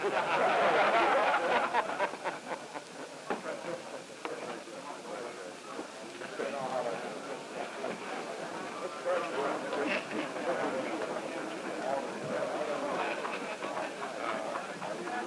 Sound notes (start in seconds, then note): 0.0 laughter; 4.0 background conversations